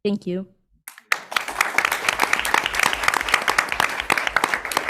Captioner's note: audience clapping